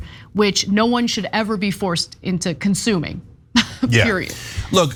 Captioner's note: laugh